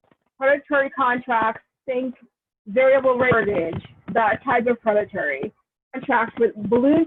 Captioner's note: audio distortion